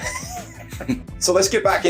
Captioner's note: both laughing